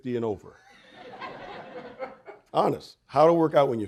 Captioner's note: audience laughing